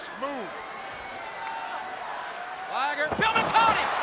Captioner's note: crowd cheering